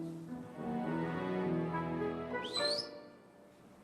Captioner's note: whistles